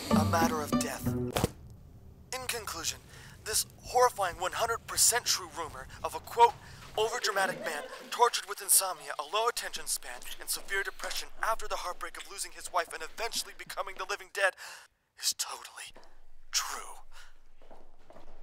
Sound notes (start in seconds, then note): 14.5 dr zoomby's deep breath